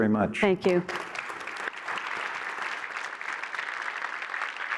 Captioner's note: applause